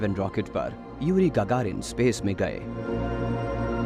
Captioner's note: man speaks russian